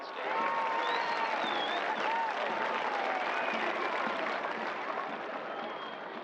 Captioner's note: cheers and applause